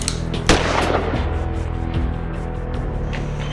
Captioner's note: clicks, fires